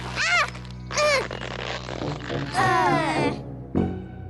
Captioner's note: all groan